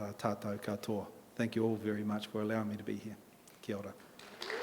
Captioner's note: in English